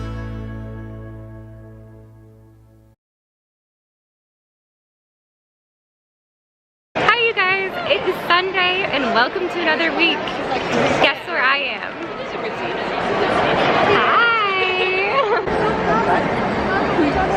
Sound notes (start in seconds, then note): 13.7 sing-songy